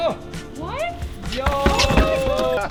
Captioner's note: lively music; bicycle crashes